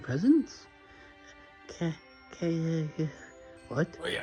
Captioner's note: Ivan making muffled grunts